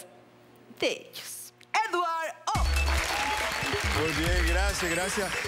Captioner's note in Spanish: Aplausos